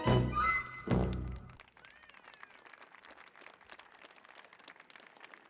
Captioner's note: audience applauding